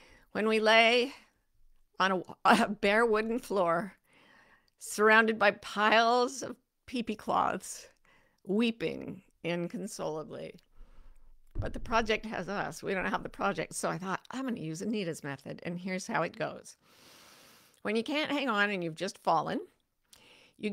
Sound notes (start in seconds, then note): 16.8 deep inhales